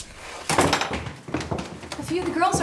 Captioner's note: door bangs